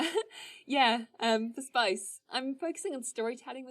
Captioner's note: laughs